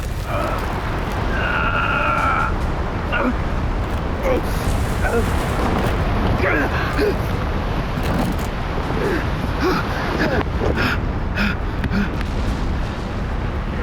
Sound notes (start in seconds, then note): 0.3 grunts; 6.5 heavily Breathing